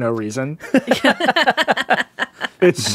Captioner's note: laughing